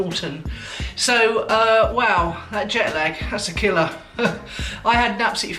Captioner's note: laughs